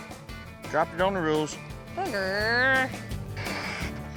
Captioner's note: groans; blowing